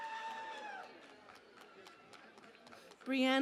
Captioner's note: cheering and Applause